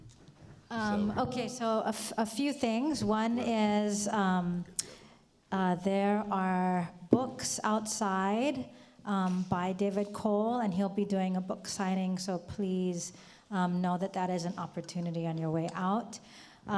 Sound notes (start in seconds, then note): none